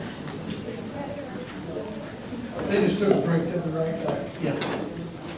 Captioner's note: crowd talking indistinctly